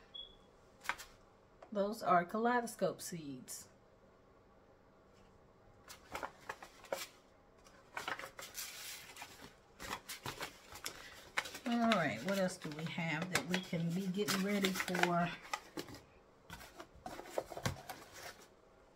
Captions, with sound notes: Just gonna show y'all what the seeds look like. Those are kaleidoscope seeds. (plastic crinkling) All right, what else do we have that we can be getting ready for?